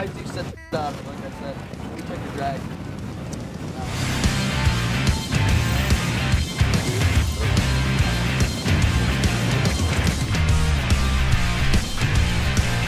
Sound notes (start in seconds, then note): 1.0 horn sound; 2.9 rock music